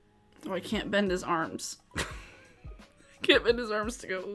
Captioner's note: chuckles